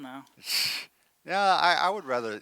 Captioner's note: scoffs